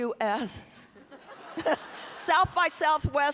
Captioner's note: everyone laughing